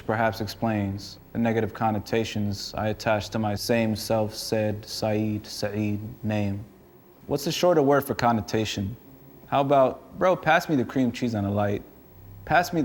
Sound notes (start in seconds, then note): none